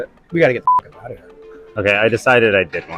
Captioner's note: beep